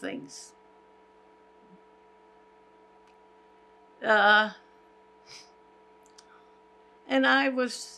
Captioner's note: pauses 6 seconds